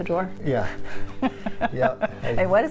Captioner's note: laughter